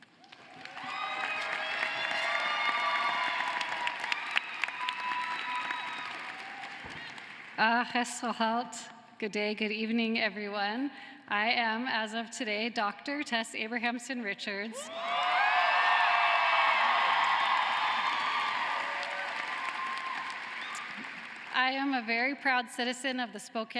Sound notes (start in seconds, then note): 6.6 cheering and applause